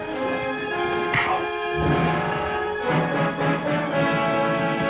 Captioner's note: fist thuds